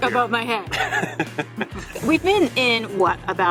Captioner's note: laughing